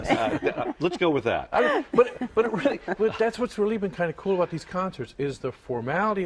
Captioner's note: laughter